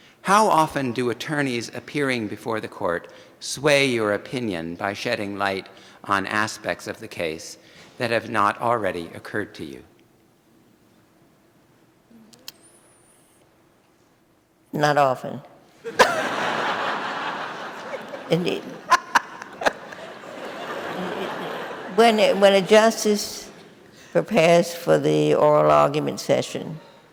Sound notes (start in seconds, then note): 15.8 audience laughing